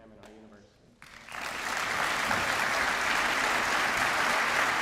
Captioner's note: applause